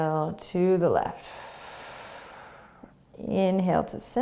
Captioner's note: exhaling